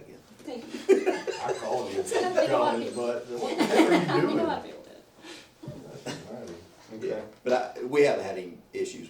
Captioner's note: laughter